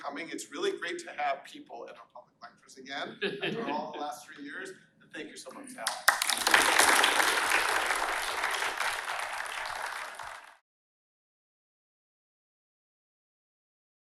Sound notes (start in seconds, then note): 3.0 laughter; 5.8 applause